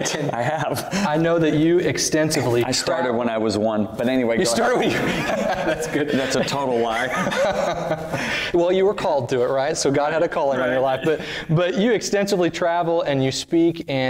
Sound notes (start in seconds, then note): 4.8 laughter